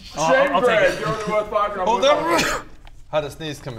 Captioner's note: achoo!